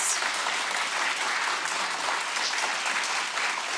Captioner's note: audience applauds